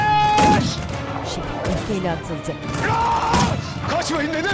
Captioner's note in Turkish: Silah sesleri; Bağırma sesi